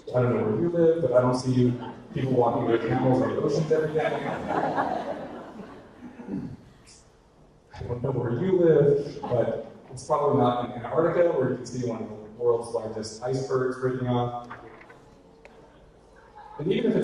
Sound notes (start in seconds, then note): 4.7 audience laughter